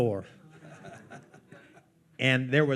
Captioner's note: attendees laughing